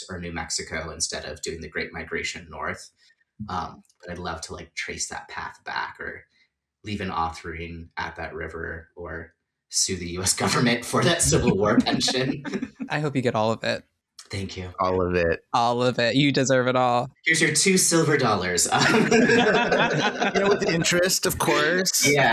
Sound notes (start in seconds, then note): 9.9 laughing; 18.5 laughter